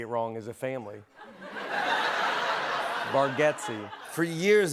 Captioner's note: laughter